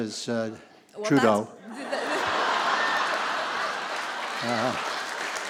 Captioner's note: laughter; applause